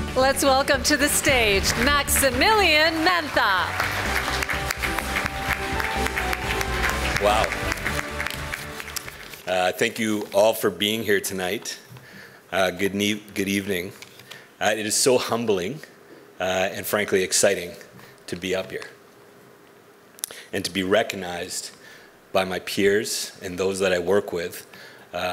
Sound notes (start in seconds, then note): 0.0 triumphant music; 5.3 audience applauds